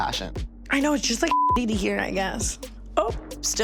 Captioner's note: beep